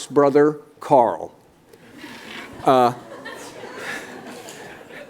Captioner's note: laughter